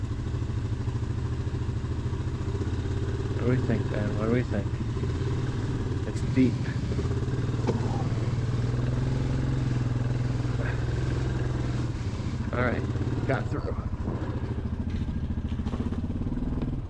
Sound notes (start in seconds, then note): 7.6 hitch hits rock